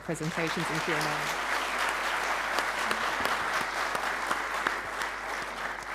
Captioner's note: audience applauding